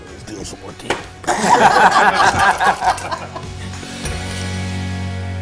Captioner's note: all laughing